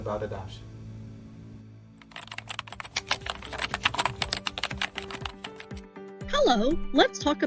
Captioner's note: keyboard typing